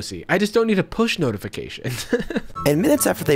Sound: laughs

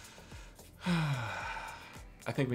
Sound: sighs

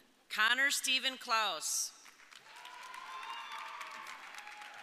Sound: audience cheering

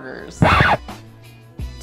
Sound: rewind sound

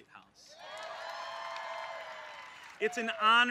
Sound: applause

